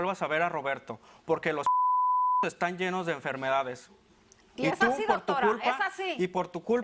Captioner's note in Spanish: Bip